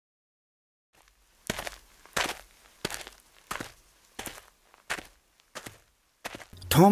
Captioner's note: footsteps on gravel